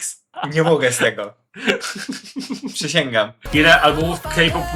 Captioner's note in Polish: śmiech